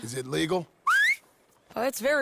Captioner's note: Sadie whistles